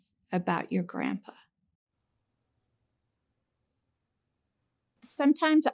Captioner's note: silence